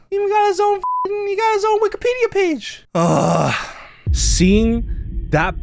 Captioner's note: grunts